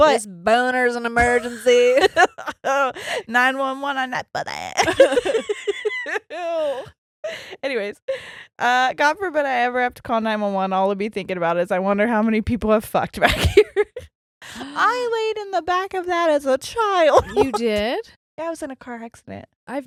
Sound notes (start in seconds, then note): 4.7 laughing